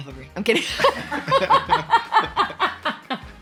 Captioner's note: laughs